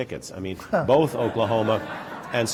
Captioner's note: laughter